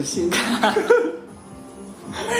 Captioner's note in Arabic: يضحك